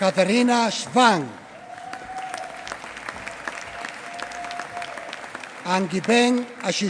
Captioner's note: applause